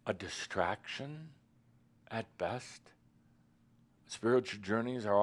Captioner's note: none